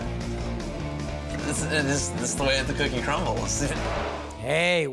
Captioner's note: punk rock music; stammers